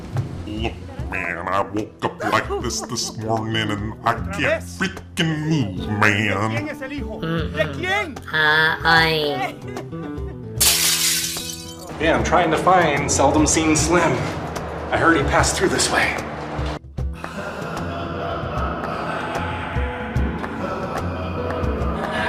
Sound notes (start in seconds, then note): 10.6 glass breaking; 17.1 echoing laughter and music